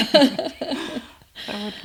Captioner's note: both laughing